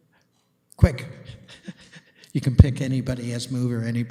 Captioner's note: laughing